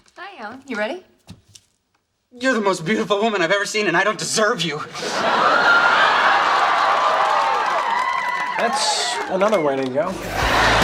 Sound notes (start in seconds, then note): 5.0 audience screams, laughs, and cheers; 10.6 upbeat music